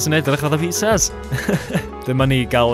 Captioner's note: self congratulatory laughter